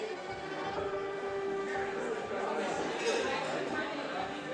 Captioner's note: soft dramatic music; background crowd noise